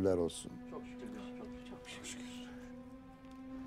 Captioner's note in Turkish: Hep bir ağızdan